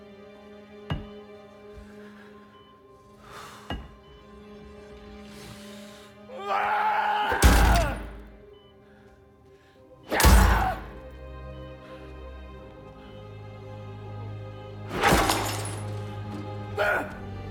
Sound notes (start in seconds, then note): 6.3 scream; 10.1 scream